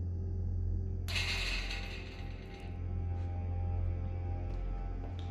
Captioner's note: metallic clattering